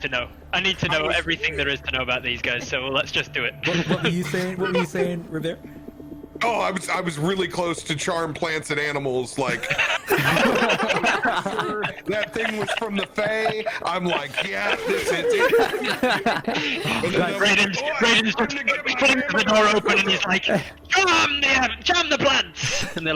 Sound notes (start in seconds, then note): 9.3 laughter; 14.8 interrupted by relieved laughter; 16.5 all yelling; 20.1 still all yelling